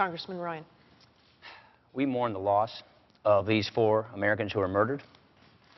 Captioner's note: sighs